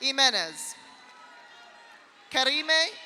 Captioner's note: audience cheers; audience applauds